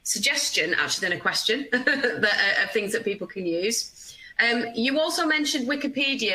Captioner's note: laughing